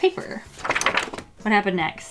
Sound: paper wobbling

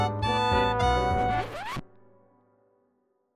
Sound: record scratch

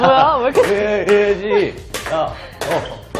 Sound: laughing

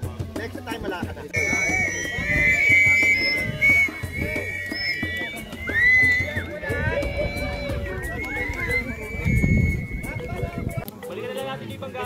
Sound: emergency whistles blowing

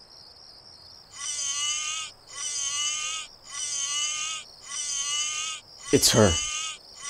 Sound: zombie ringtone

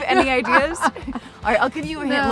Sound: laughing

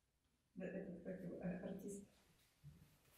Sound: voice-over

